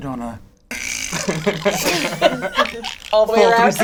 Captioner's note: imitates bones creaking